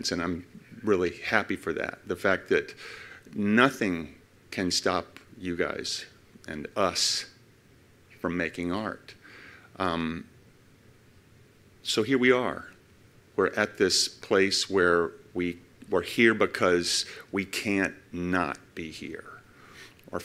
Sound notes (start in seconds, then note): none